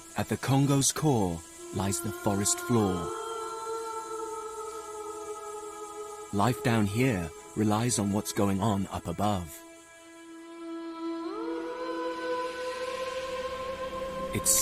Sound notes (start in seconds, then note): 3.1 ethereal music; 3.1 woman humming; 10.6 ethereal music continues